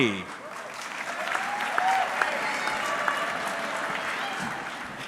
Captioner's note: audience clapping